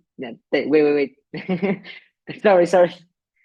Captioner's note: laughs